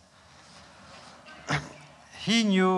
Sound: laughter

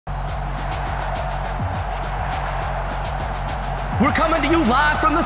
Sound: crowd cheering

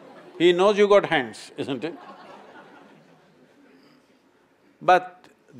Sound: laughter

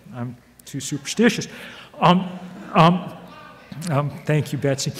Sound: audience laughs

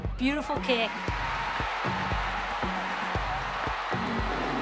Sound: crowd cheering

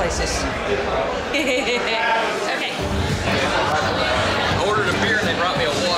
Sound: laughs

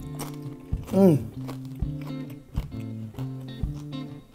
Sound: crunching

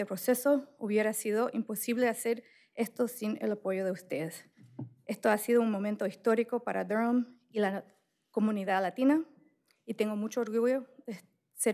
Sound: speaking spanish

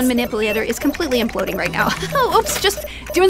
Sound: laughs

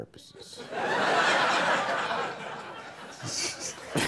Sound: audience laughing

